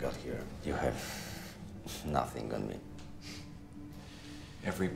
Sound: scoffs

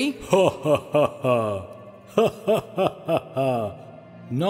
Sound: laughs

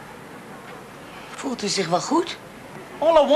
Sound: speaks Dutch

